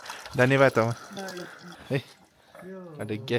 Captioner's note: speaking Nepali